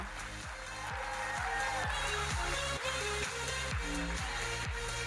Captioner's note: audience cheering